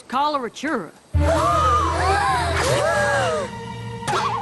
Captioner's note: gasps; boing